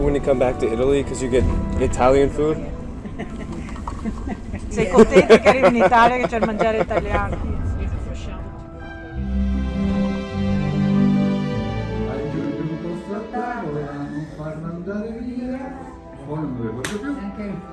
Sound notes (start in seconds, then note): 3.0 laughs; 5.4 speaking in foreign language; 12.6 and friend singing in foreign language